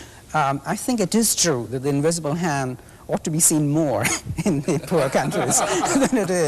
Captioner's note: laughter